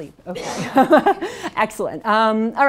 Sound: laughs

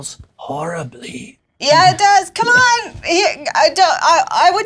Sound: struggles

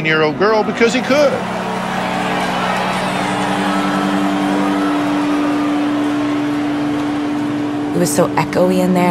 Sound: audience Boos

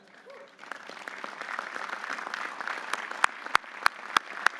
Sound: audience applauding

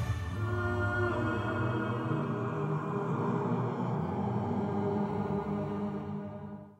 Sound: wind blowing

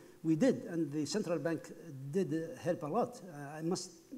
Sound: speaking foreign language

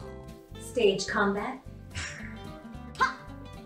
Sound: growls

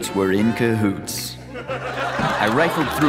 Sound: audience laughter

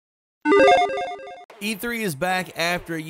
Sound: logo beeps

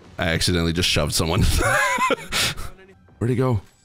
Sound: laughs

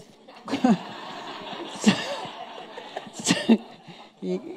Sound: audience laughing

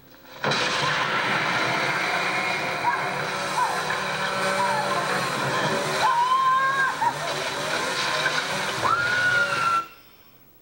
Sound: screaming on television

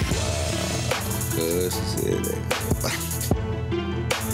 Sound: laughs

